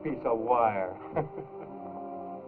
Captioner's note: laughs